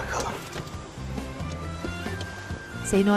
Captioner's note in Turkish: Kapı açılma sesi